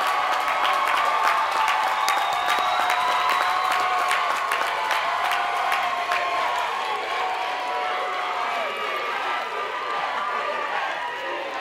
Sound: cheers and applause

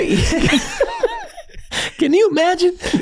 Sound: all laughing

